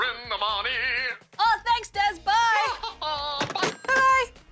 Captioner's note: laughs